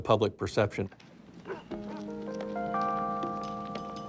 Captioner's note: dog barking in distance